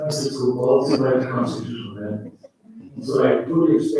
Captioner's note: faintly speaking; chuckles